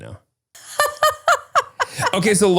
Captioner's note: laughs